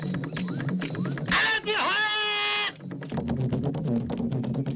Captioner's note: tonga spoken audio